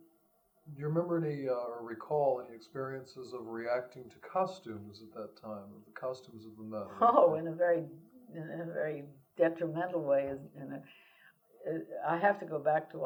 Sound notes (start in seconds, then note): 6.6 laughs